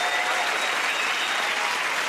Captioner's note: cheers and applause